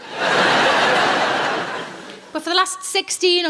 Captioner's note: laughing